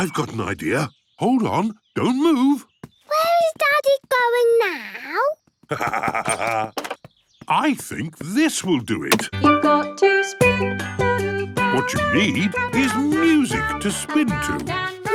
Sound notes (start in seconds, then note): 5.7 laughs; 10.0 radio